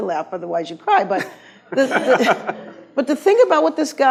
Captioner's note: laughs